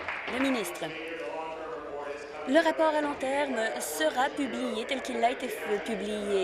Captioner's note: applause